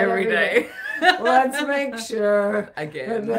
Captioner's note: laughing